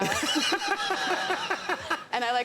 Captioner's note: laughter